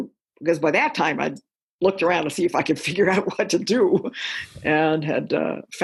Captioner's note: chuckle